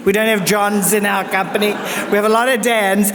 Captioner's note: audience laughs